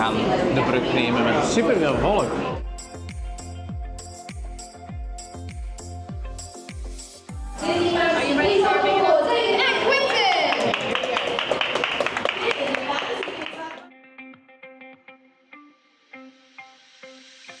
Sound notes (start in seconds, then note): 9.9 clapclapclap